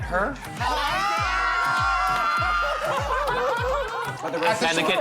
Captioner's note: shouting